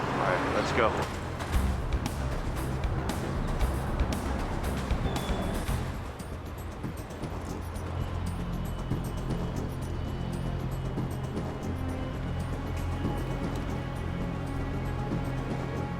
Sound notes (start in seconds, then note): 4.0 traffic passing; 8.3 tense music